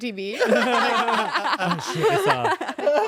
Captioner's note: everyone laughs